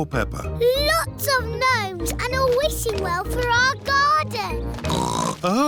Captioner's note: oinks